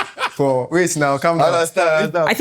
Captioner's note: laughter